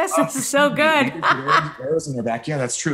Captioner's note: laughing